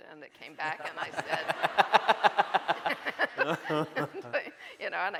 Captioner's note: laughing